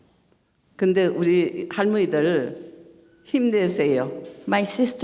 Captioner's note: speaking foreign language